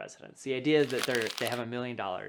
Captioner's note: paper rubbing